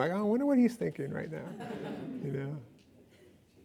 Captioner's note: laughing